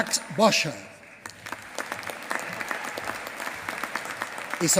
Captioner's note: applause